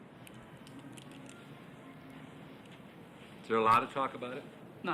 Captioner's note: glasses crackling